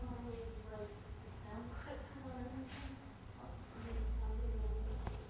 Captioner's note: people chattering indistinctly